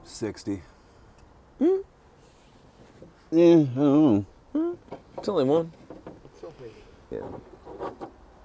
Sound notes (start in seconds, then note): 1.7 squeals; 4.6 squeals